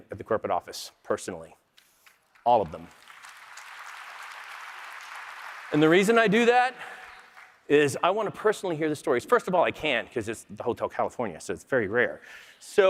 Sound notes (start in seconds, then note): 7.0 applause